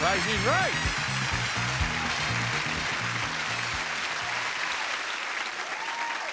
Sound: upbeat music continues; audience cheering

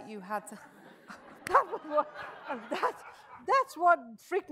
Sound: audience chuckles

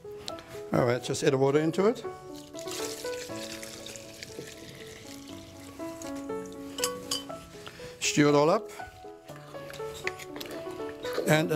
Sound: POURING</b> <b>NOISES

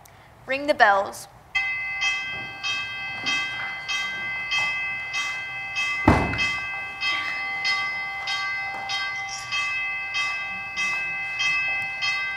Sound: bells ringing

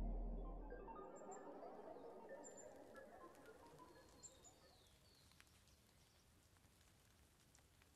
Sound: distant Robotic beeping

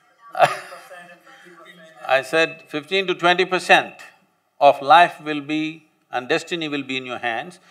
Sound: laughs

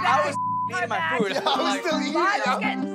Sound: beep

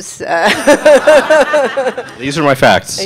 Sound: audience laughing

